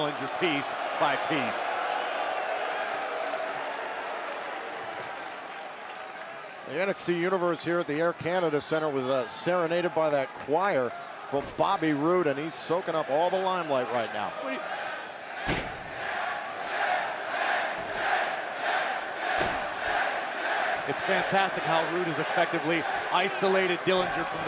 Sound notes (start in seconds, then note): 13.8 crowd chanting